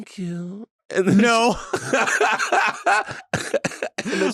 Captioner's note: laughing